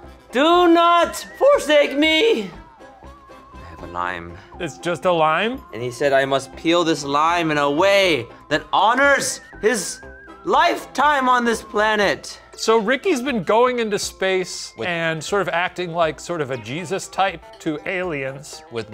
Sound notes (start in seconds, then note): none